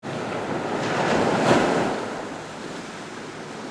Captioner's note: waves crashing